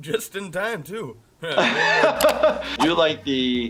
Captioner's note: laughing